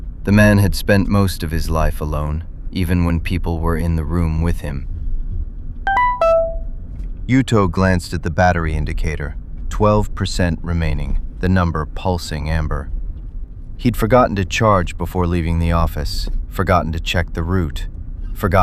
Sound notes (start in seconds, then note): 5.8 SFX: dashboard low battery alert